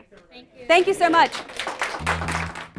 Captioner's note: participants clapping; bouncy upbeat music